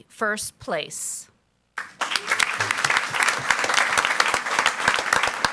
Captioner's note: audience applauds